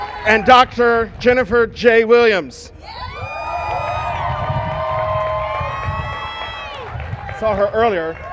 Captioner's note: cheers and applause